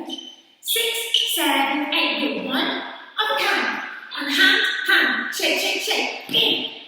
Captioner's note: counting 6 7 8